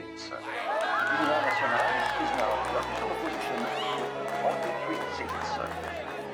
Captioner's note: group cheers and claps